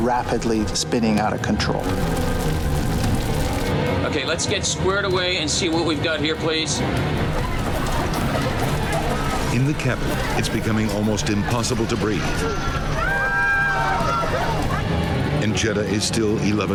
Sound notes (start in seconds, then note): 8.8 passengers screaming; 14.4 passengers screaming